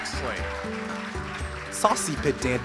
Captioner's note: ^applause^